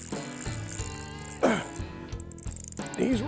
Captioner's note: grunt